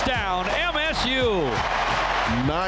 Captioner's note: crowd cheering